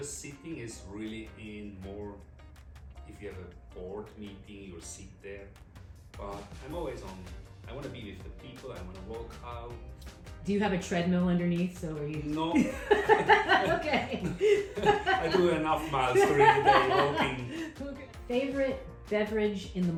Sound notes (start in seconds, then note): 12.5 laughs